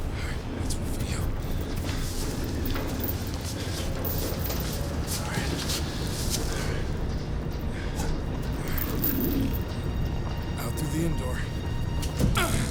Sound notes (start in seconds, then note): 7.7 cougar growls